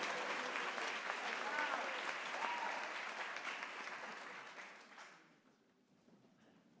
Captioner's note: applause